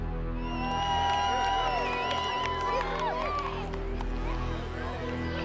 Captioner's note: shouting and cheering